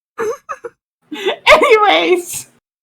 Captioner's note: inhale